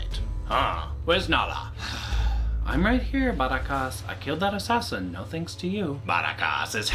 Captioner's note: huge sigh